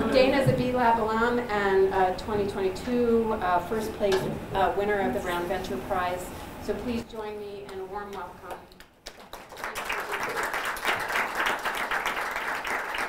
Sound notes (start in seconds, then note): 8.8 applause